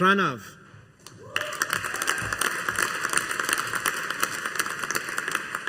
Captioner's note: audience applauding